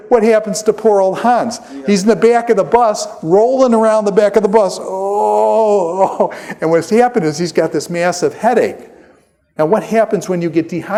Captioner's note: groaning